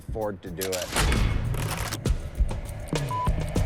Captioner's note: cash register sound